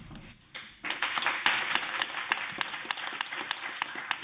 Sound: audience applauding

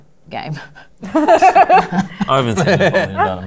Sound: laughter

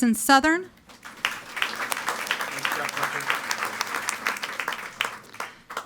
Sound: audience applauding

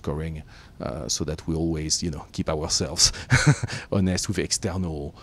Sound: laughs

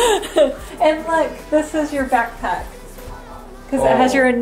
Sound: laughs

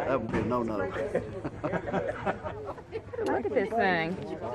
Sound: laughing

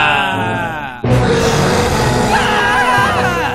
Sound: roar

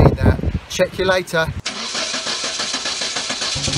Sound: engine starting sound

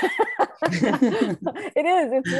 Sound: both laugh

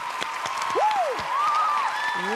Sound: cheers and applause

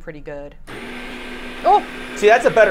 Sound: ice cream maker whirring

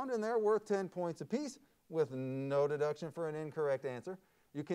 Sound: none

